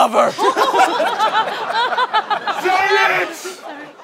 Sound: laughing

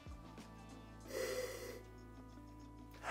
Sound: sniffs; sighs

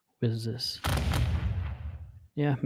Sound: volley of booming sounds

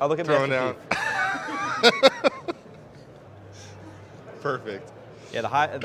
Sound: laughs

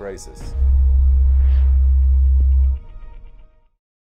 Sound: humming noise

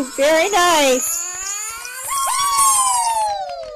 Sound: cheering

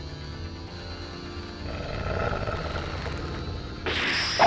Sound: Hellhound growl

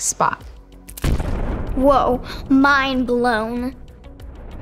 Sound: small explosion

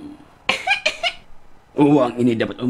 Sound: coughing

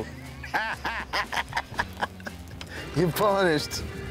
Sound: both laughing

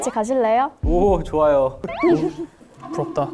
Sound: heart pounding

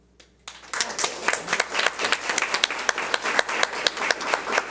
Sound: audience applauds

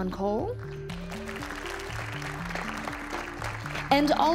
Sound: audience cheering and applauding

